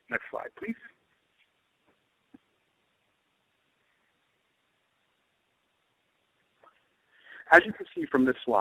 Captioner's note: silence